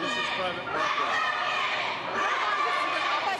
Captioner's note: chanting